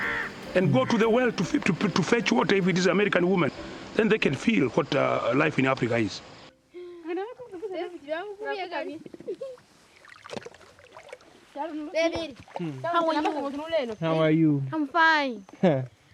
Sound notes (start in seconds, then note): 7.2 women speaking in foreign language